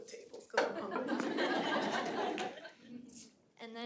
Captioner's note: audience laughing